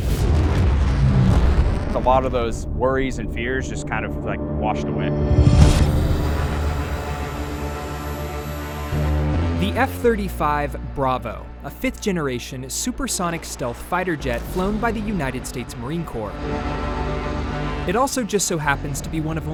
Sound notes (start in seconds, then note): 0.8 aircraft jet engine noise; 5.4 tense music; 15.6 aircraft humming